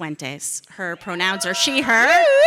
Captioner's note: audience cheering